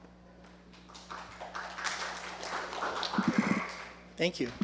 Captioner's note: applause